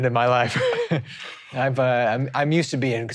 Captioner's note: laughing